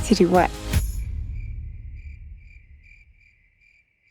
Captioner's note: crickets chirping